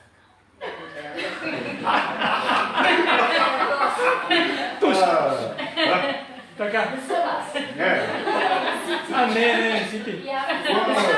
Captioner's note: loud laughing